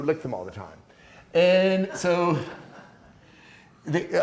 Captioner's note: class laughing